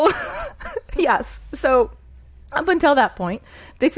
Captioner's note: laughing